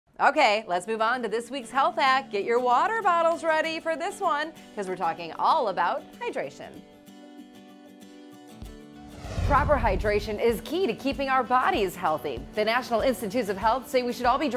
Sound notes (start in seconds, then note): 6.8 happy music; 9.0 swoosh